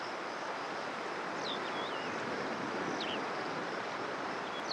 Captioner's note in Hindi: चहचहाहट